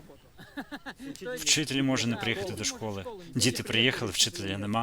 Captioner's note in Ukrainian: сміх